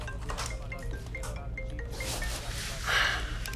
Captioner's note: mobile Bell